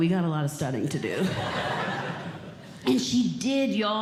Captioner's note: audience Laughing